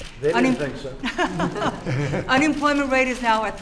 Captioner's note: laughter